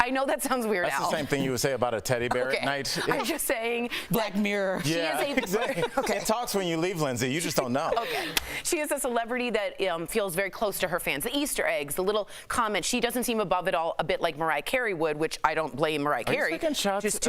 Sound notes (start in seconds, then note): 7.8 laughter